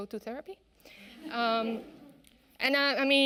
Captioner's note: audience laughing